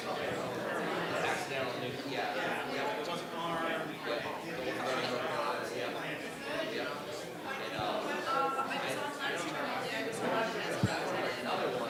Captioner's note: background chatter